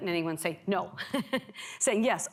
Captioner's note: laughs